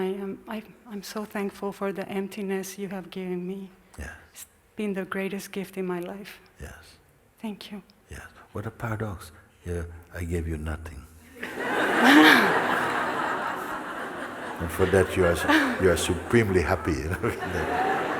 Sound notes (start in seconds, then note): 11.4 laughter